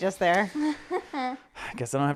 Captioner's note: laughing